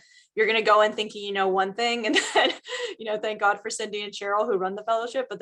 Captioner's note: laughs